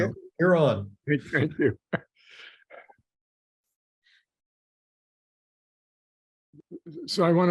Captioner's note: laughs